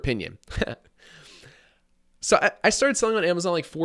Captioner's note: laughing